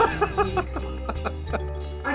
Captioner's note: Alex laughing